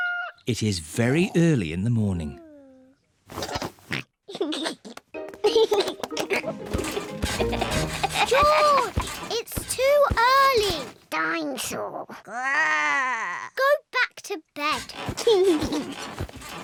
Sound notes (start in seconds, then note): 3.6 oinks and giggles; 5.4 continues to laugh; 12.1 growls; 14.7 laughs